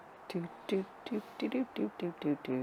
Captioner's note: humming